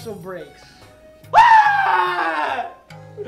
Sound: screams in frustration

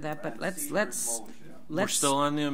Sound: overlapping chattering

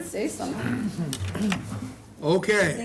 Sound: laughing

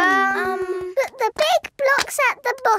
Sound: children hesitating

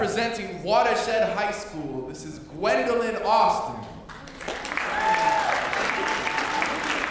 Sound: applause

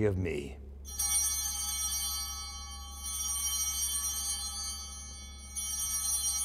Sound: bell ringing

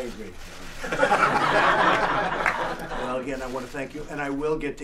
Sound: laughter

